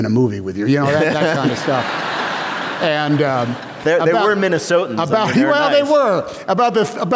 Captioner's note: laughter